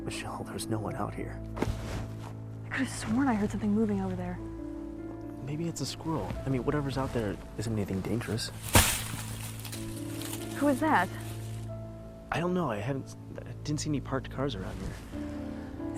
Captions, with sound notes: Michelle, there's no one out here. (Soft thump) I could have sworn I heard something moving over there. Maybe it's a squirrel. I mean, whatever's out there isn't anything dangerous. (Crash into leaves) Who was that? I don't know. I hadn't - I didn't see any parked cars around here.